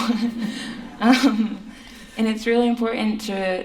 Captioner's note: laughter